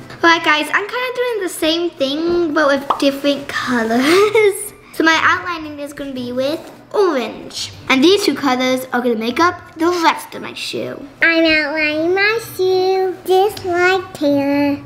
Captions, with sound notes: - Hi guys I'm kind of doing the same thing but with different colors (chuckles). So my outlining is gonna be with orange. And these two colors are gonna make up the rest of my shoe. - I'm outlining my shoe just like Taylor.